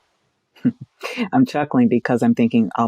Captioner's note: laughs